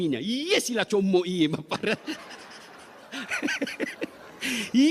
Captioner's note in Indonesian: tertawa